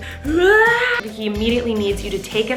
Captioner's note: whining